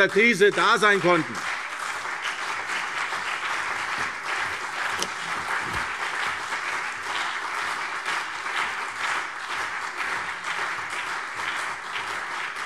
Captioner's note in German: Beifall CDU und BÜNDNIS 90/DIE GRÜNEN